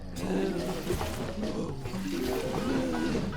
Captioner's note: zombie moaning